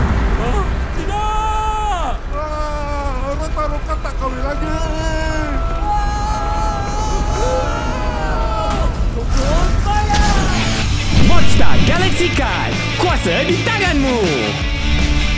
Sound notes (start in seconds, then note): 0.7 wailing; 1.0 Roktaroka screaming; 5.7 Roktaroka and Fang screaming